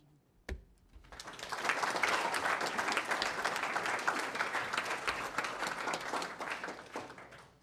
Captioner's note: applause